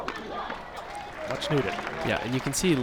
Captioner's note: crowd applauds